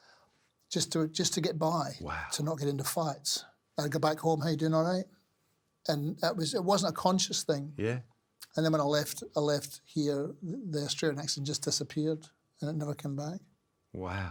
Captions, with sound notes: like that just to get by - Wow. - to not get into fights. I'd go back home (in Scottish accent) how you doing, all right? And it wasn't a conscious thing. Yeah. And then when I left, I left here, the Australian accent just disappeared and it never came back. Wow.